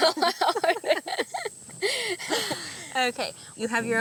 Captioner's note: laughter